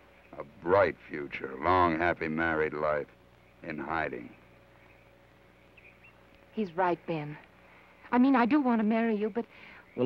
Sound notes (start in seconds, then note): none